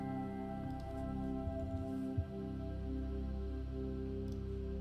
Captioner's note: gentle music; mouse clicking